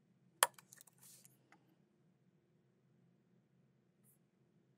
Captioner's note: keyboard clacking continues